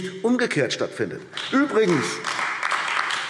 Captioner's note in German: Beifall AfD